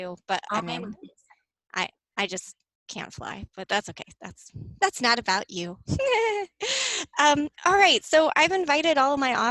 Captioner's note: laughs